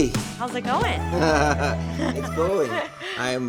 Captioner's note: chuckling